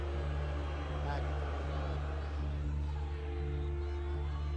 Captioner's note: audience booing